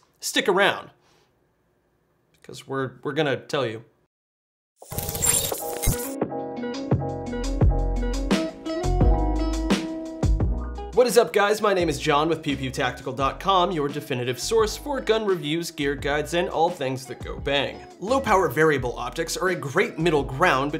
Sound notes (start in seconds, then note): 4.8 beeping; 4.8 soft techno music